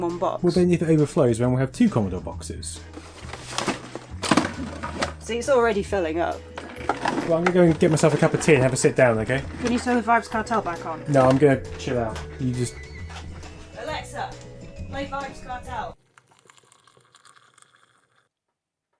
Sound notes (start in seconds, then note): 4.0 crunch